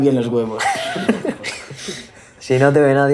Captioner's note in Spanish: risas de todos